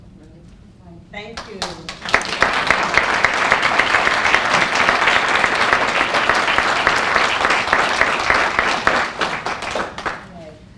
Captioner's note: applause